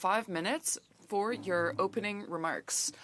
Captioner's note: speaking French